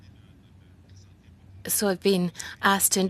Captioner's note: speaking French